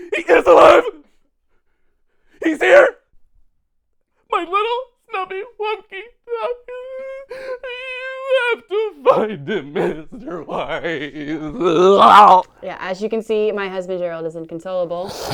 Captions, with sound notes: He is alive! He's here! My little Snubby Wubkins. (Gerald crying) You have to find him, Mr. Weiss! (sobs uncontrollably) - Yeah, as you can see, my husband Gerald, is inconsolable.